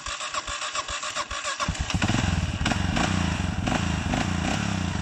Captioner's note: bike engine revving